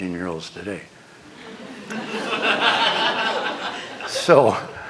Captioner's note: laughter